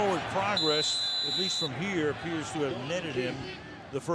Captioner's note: whistle